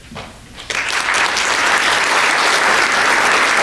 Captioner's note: applause